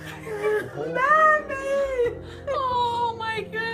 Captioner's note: crying